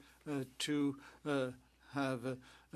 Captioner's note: speaking French